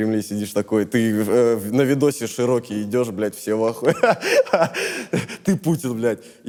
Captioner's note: laughs